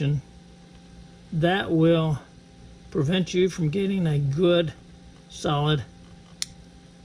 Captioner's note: click